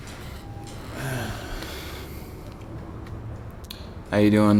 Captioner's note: sighs